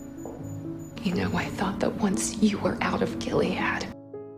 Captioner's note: voiceover